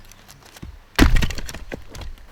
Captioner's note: thump